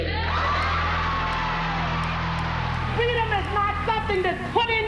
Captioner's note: audience cheering